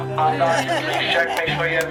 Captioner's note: laughing